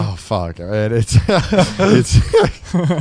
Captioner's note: all laughing